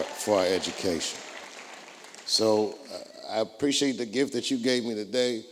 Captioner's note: applause